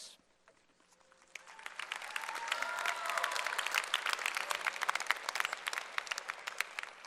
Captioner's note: applause